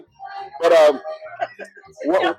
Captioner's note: laughs